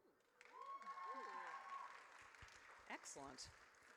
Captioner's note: audience cheers